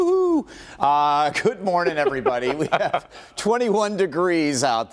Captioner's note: laughter